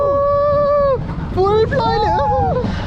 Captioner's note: screaming